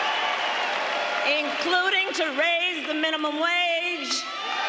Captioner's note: applause